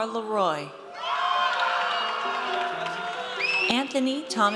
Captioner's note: audience cheers